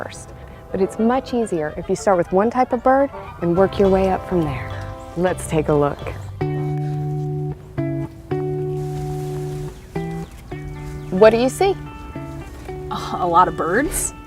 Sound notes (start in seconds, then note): 8.3 clothing rustling